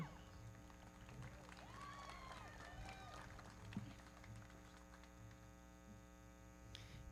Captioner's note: everybody clapping; audience cheering